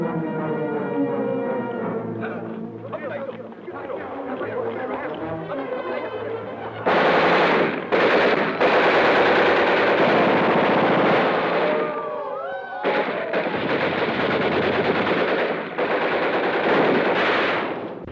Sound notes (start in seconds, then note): 2.1 Japanese soldiers chattering; 6.8 gunfire blasts rapidly